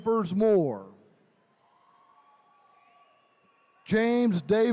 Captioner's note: attendees cheering